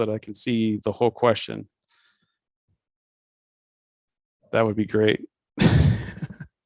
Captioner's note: laughs